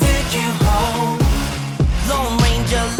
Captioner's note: blows